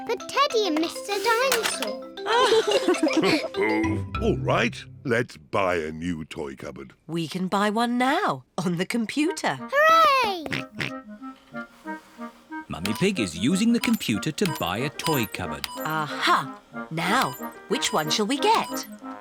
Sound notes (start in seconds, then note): 2.2 both laugh; 11.3 snorts